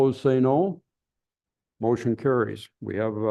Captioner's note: silence